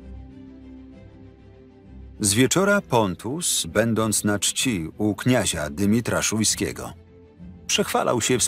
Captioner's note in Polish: Lektor